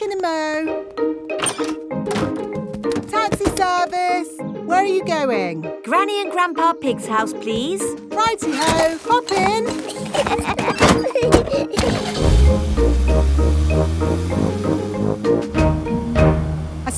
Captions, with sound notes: Back in a mo'. Taxi service! Where are you going? Granny and Grandpa Pig's house, please. -Righty-ho! Hop in. -(LAUGHING) (CAR ENGINE STARTS)